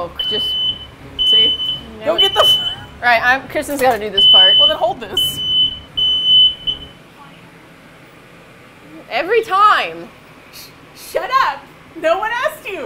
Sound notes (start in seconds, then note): 0.0 smoke detector begins to beep loudly; 5.1 alarm stops